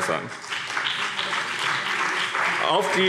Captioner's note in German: Beifall BÜNDNIS 90/DIE GRÜNEN und CDU